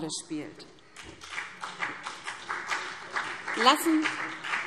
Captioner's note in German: Beifall BÜNDNIS 90/DIE GRÜNEN